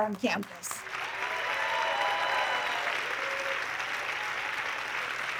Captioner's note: audience clapping